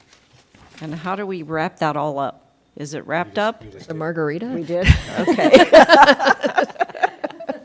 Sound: laughter

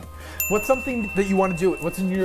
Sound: bell dings

